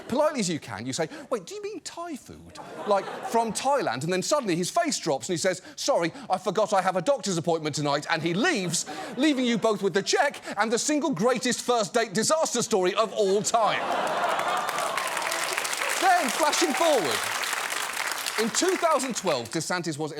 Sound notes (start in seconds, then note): 13.8 audience applauds